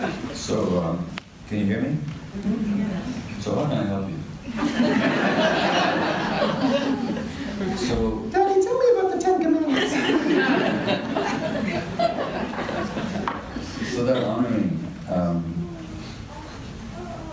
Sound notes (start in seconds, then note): 4.5 audience laughter; 9.2 kid voice; 9.7 audience laughter